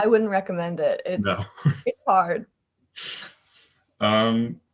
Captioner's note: laughs